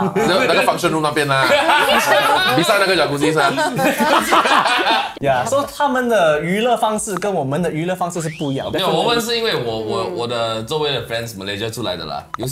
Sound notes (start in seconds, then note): 4.0 laughs